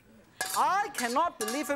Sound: clanging

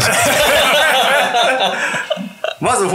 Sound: laughing

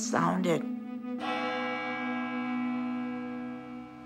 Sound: chimes

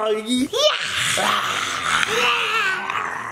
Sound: roaring

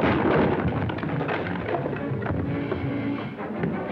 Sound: shatters

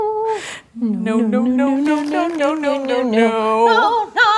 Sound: chorus Of No's

